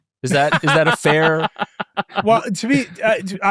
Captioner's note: laughing